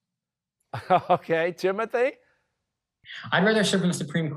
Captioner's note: chuckling